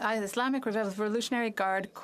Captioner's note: speaking French